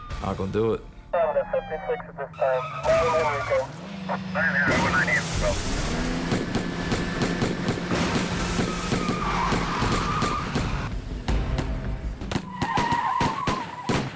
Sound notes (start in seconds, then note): 2.8 crashing; 6.3 gunshots